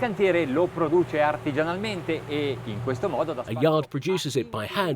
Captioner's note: speaking foreign language